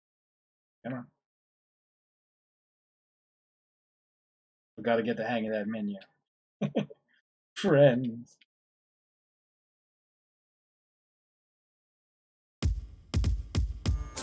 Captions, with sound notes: C'mon. We gotta get the hang of that menu. [chuckles] "Friends~!"